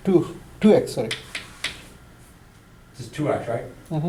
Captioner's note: voiceover